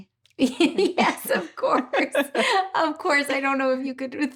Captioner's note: laughing